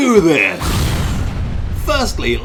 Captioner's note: bomb exploding